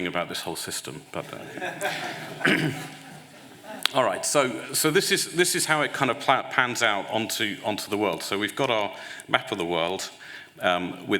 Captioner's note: laughter